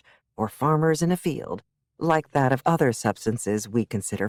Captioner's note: none